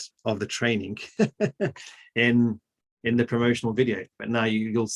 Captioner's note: laughs